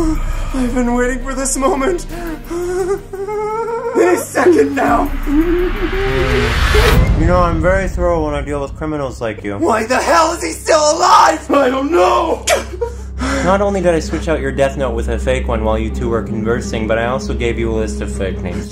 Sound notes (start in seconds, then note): 0.0 light laughing; 4.4 intense vibrating; 13.1 breath